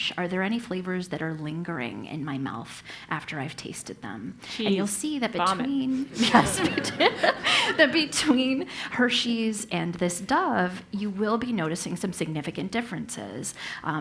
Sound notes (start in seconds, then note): 5.8 laugh